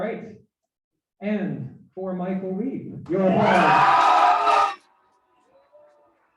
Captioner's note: cheering and Applause